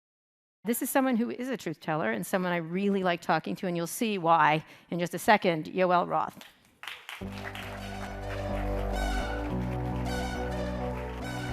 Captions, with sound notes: - This is someone who is a truth-teller and someone I really like talking to and you'll see why in just a second, Yoel Roth. (audience applauding) (upbeat techno music)